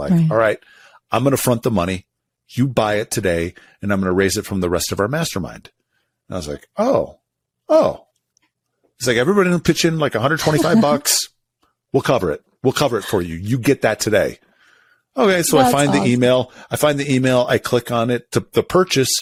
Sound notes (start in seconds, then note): 10.4 laughs